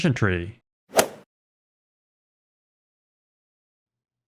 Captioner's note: golf ball hit sound effect